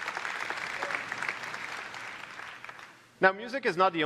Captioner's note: applause